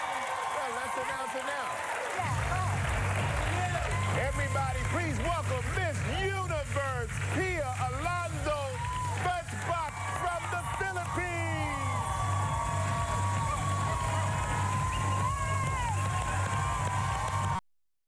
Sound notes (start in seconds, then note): 5.0 applause